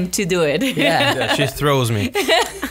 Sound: laughs

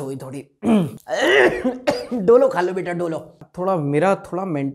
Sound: coughs

